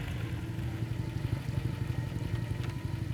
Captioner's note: engine idling